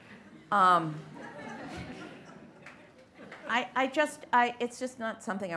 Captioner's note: light laughter